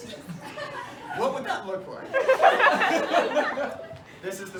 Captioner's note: laughter